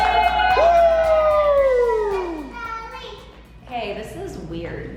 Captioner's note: family cheering